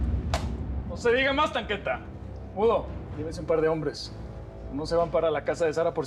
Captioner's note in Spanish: palmada